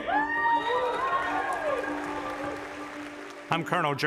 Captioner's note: audience cheers